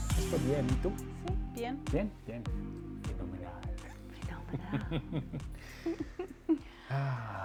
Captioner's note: laughing